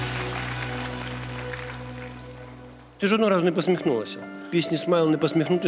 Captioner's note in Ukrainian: оплески